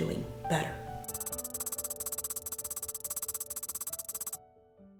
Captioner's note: keyboard tapping